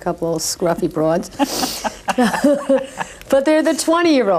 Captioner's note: both laughing